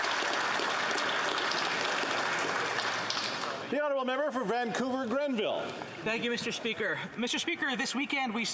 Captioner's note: applause